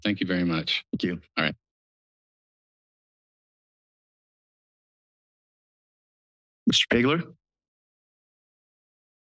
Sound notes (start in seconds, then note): 1.8 silence